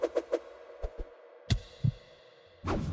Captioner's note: strong Heart Beat